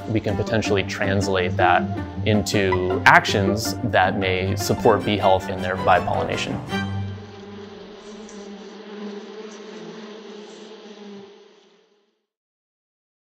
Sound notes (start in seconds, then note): 7.2 bees buzzing